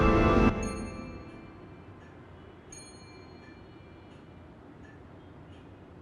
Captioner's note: bell dinging; clock ticking